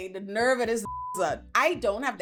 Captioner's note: beep